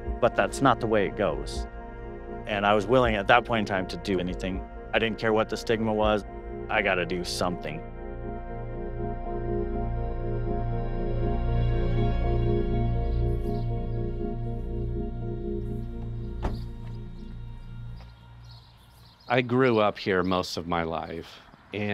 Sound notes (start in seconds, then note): 10.1 gentle music; 15.9 door clatters; 16.5 birds chirping